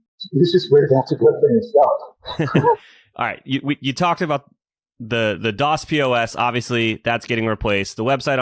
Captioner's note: laughs